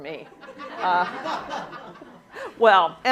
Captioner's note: laughter